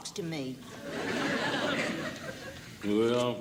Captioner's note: audience laughing